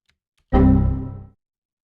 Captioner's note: error sound